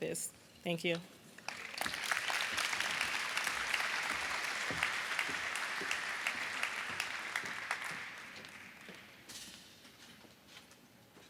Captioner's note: applause